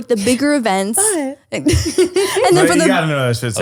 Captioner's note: laughing